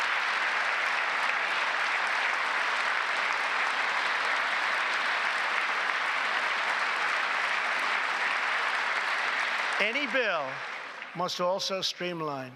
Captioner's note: applause